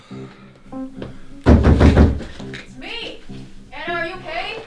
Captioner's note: door banging